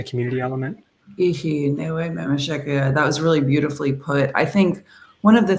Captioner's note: Speaking Myaamian